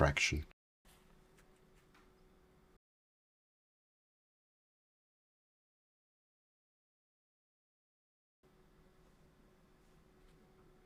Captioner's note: silence